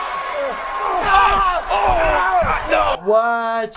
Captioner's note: Batista screams loudly